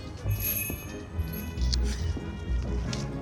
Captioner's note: door bell jingles